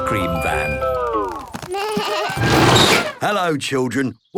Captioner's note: bleating, trumpeting